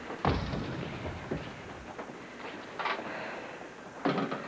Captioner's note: whispering